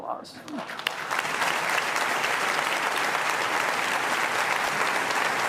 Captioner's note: applause